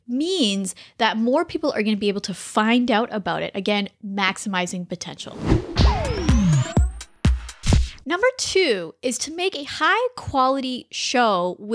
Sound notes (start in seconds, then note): 5.3 air whooshing; 5.7 bright music